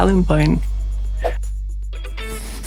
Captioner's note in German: Wisch-Sound